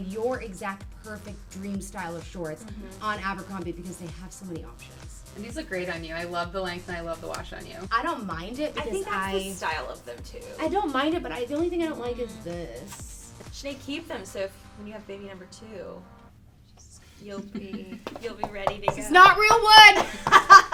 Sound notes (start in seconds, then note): 17.2 laughing; 18.0 knocking; 20.5 laughing